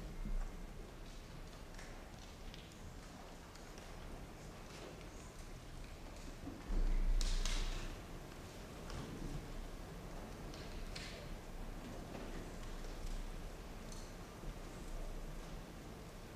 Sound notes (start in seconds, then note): none